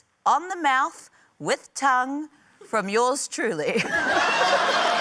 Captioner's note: laughs; laughter, cheering, applause